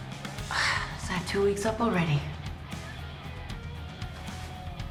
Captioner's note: sighs